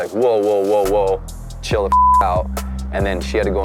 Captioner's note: beep